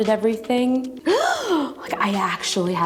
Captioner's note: inhale sharply